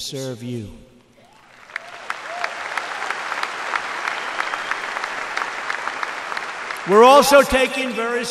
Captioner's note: applause